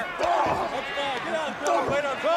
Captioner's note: crowd chatter